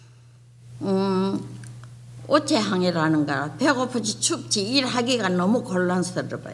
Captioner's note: speaking foreign language